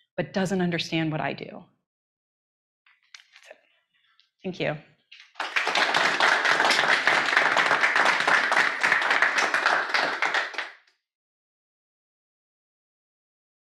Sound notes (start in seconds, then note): 5.1 people clapping